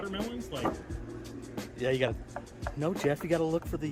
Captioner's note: knocks on wood